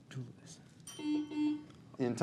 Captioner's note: bell dings; buzzer buzzes